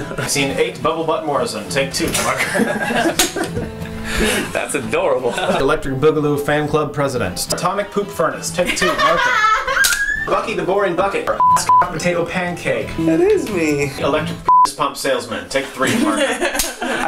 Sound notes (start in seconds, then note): 11.4 Pitido; 14.4 pitido